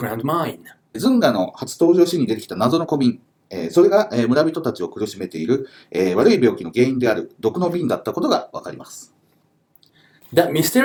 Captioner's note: speaking Japanese